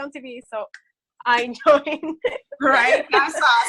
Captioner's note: laughs